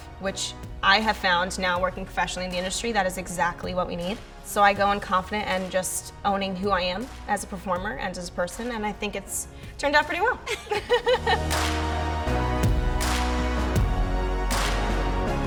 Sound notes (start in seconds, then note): 10.4 laugh; 12.7 upbeat music